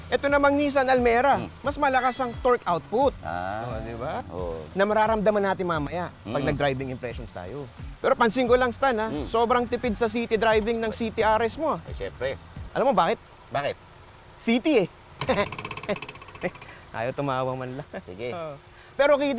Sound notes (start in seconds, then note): 15.2 nervous laugh